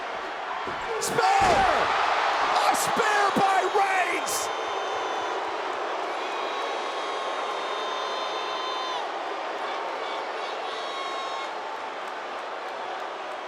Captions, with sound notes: Spear. (audience cheers) A Spear by Reigns. (audience jeers)